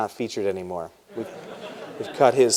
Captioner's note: laughter